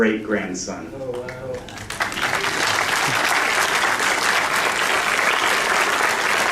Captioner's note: applause